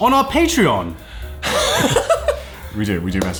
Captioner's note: laughing